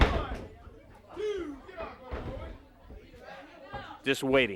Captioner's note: crowd chatter